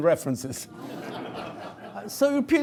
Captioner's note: laughter